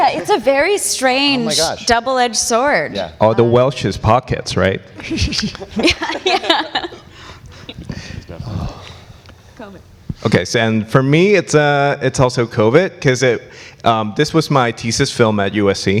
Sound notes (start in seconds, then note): 4.9 panelist laughs